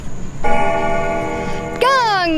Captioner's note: bell dings